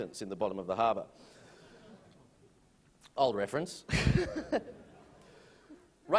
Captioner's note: chuckles